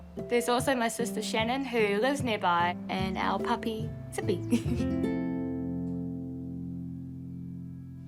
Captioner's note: chuckles